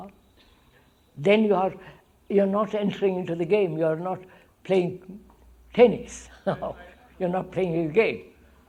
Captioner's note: laughs